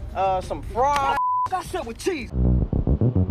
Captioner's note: beep